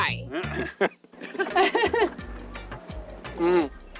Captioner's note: laughter